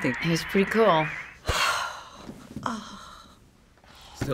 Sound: dreamy sigh

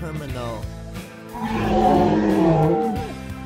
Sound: dinosaur groan

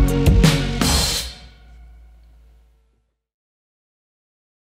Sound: music stops

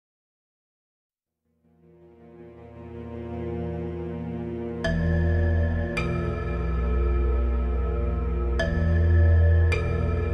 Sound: underground ambient

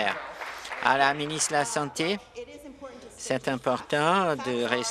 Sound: applause

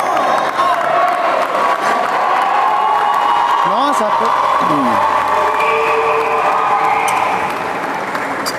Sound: applause

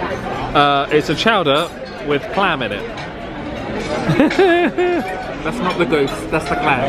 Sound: laughs

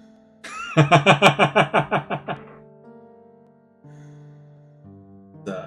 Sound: laughs

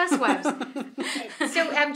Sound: both laughing

